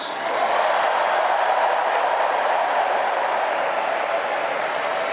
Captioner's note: applause